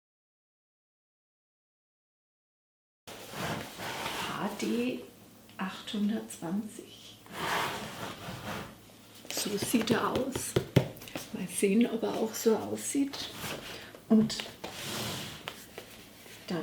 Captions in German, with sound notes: hd 820. so sieht er aus. (klopft auf die Schachtel) mal sehen ob er auch so aussieht. und dann